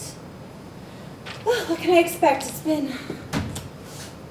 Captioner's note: sighs